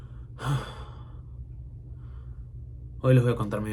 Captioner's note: gasp